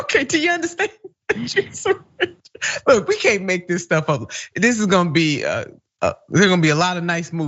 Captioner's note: laugh